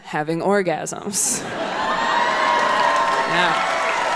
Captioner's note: audience cheering and applauding